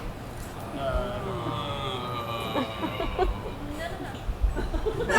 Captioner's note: actors groaning